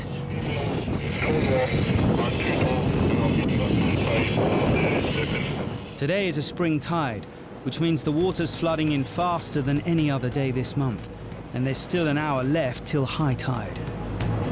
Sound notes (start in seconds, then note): 0.0 boat engine revving; 13.7 dramatic music